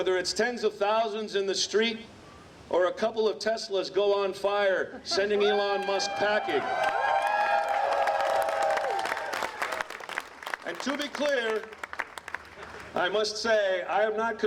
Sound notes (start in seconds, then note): 8.2 applause